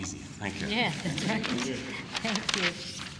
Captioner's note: laughter